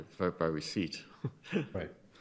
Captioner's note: chuckles